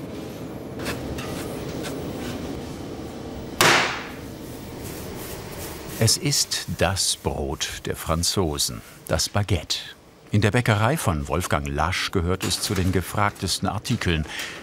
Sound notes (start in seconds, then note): 3.3 loud splashing